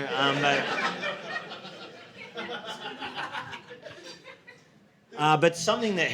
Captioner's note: audience laughing